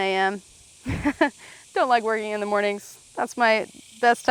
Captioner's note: laughs